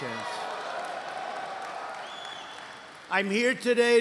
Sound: applause

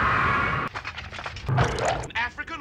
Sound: splash

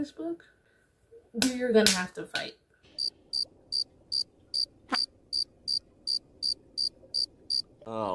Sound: crickets chirping and quiet wave sounds

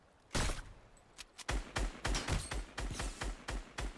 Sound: gunfire

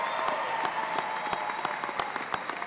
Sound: applause

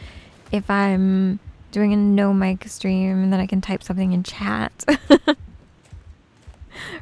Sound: giggles

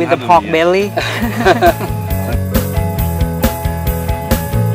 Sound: laugh

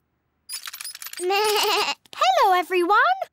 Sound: bleats

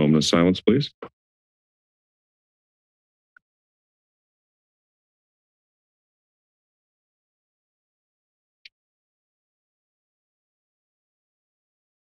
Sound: silence

